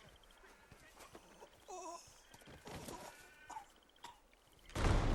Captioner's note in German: Stöhnen; Türen knallen